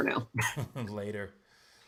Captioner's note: laughs